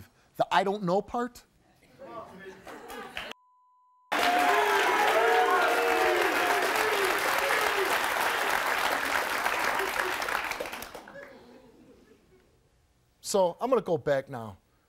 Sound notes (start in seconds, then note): 4.1 audience applauds